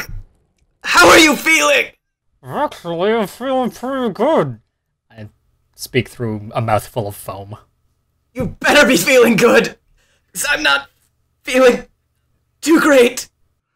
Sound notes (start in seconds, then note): 4.8 I speak through a mouth full of foam